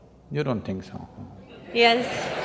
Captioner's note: laughter